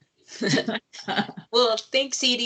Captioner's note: lady laughing